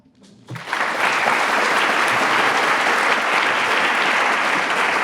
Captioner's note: audience applauding